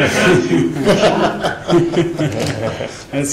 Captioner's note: laughing